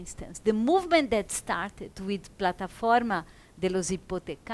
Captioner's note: speaks in foreign language